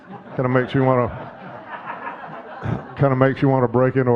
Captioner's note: audience laughing